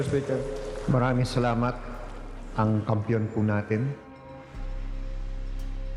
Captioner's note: speaking in foreign language; dramatic music